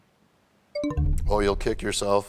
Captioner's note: bell chimes, time expires